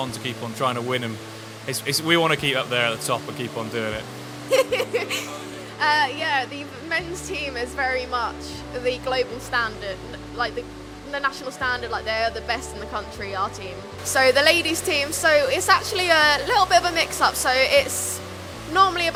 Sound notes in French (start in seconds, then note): 4.5 rires